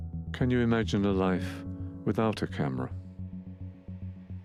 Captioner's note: voiceover